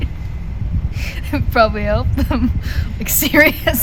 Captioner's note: laughs